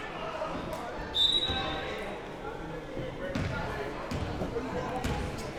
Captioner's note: whistle blowing